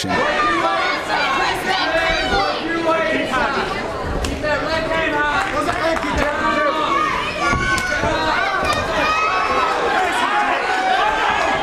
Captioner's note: fight & crowd noise